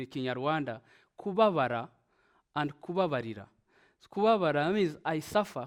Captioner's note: speaking in Kinyarwanda; speaks in Kinyarwanda